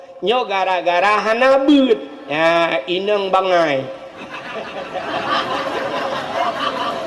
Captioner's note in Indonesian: tertawa